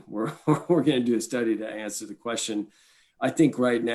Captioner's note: chuckles